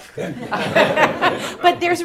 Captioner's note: laughter